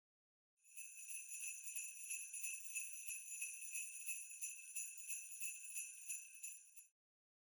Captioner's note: sleigh bells